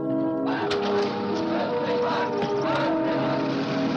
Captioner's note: engine starts